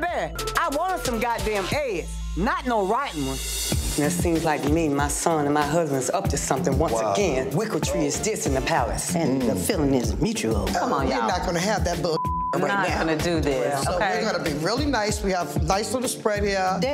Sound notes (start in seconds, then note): 12.1 beep